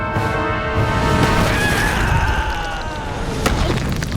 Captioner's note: screaming